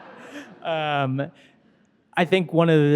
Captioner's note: audience laughing